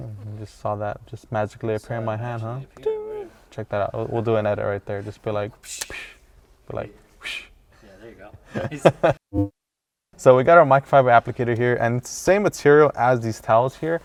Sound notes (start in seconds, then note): 8.5 laughs; 9.3 magical noise